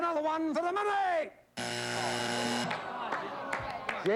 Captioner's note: buzzer